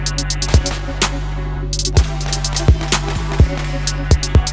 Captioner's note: uptempo music; gun firing